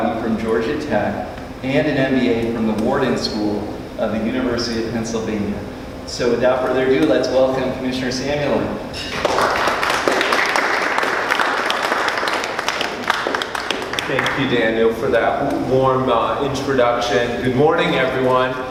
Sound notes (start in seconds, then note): 9.1 clapping